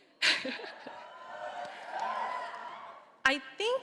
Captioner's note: laughs; audience cheering